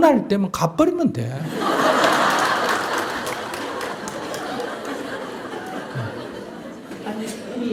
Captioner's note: audience Laughter